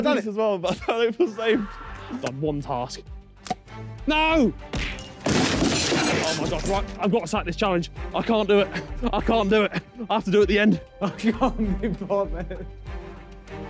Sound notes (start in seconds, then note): 1.5 background screaming; 4.8 crashing